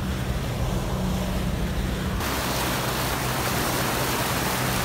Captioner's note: rapids increase in volume